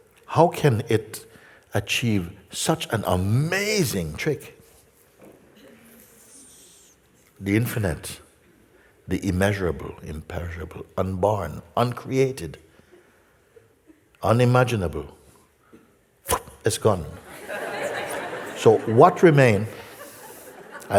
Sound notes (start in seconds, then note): 17.2 laughter